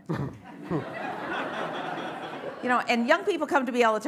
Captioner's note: laughter